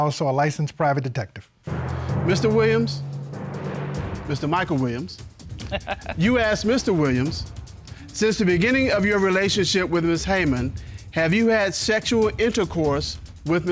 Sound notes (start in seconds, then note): 5.5 judge laughs